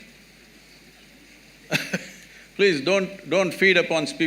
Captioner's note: laughs